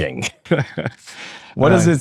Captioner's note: laughing